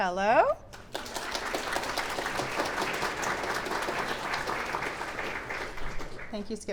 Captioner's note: clapping